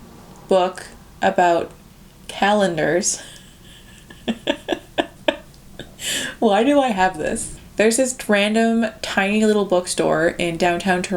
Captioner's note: laughs